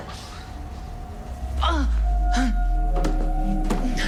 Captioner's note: pained groaning; eerie music